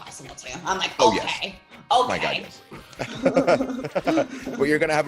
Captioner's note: laugh